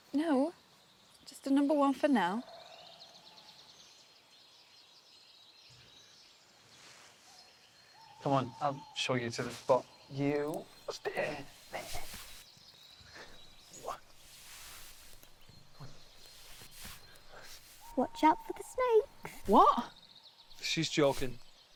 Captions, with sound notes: - No. Just a number one for now. (birds chirping) - Come on, I'll show you to the spot. You stay here. - Watch out for the snakes! - What? - She's joking.